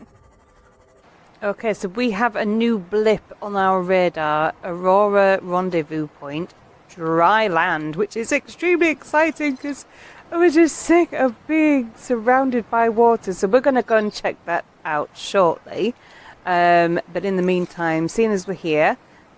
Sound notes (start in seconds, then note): 0.0 laughing; 12.6 dramatically